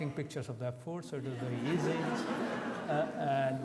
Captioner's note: audience laughs